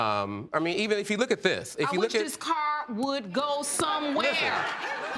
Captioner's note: audience laughing